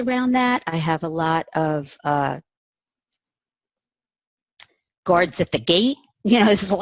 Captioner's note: laughs